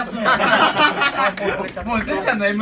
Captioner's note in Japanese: 苦笑